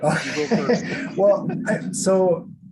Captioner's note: laugh